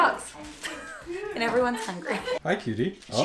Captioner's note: laughs